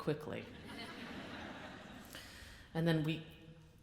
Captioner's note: audience laughs